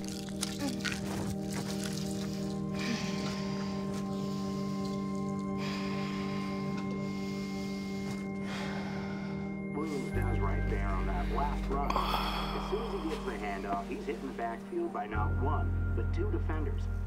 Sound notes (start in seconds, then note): 2.7 Ashley sighing; 9.6 Drew sighing over muffled sportscaster dialog